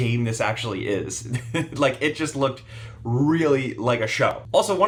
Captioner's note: laughs